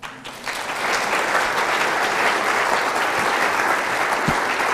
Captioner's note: audience clapping